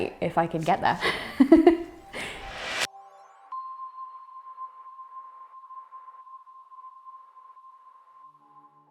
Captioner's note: laughter